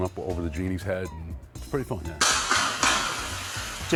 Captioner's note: clanging